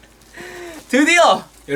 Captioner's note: inhale